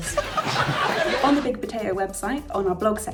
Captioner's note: laughs